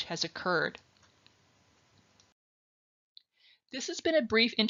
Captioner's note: silence